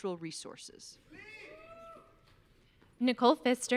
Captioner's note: audience cheering